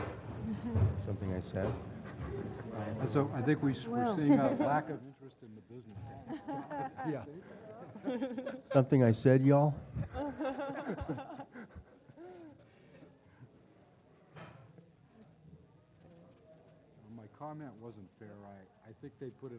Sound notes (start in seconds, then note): 6.2 laugh; 10.0 laugh